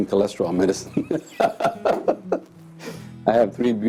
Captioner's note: laughs